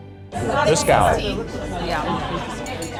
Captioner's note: cutlery jangling